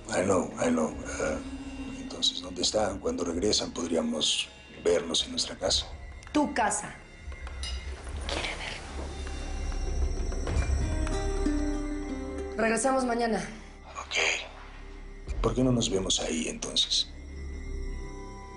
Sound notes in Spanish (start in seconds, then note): 8.6 Susurra